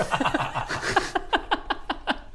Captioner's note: laughs in defeat